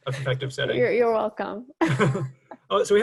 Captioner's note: chuckles